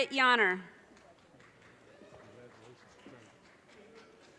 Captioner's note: audience cheers and applause